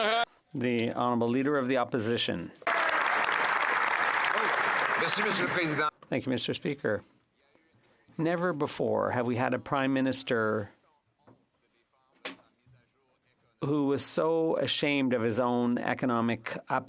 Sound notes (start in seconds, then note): 1.7 speaking French